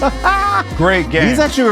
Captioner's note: laughs